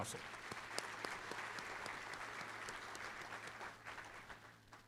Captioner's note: applause